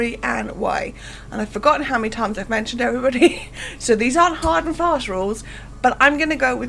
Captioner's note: laughs